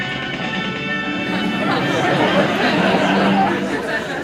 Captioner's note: laughter